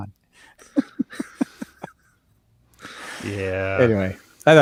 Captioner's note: laughing